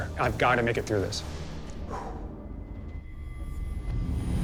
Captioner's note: exhales